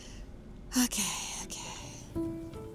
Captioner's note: sighs